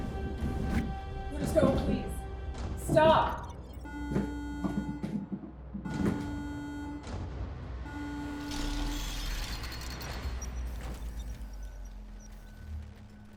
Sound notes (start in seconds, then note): 2.8 alarm beeps steadily; 7.9 digital beeping and buzzing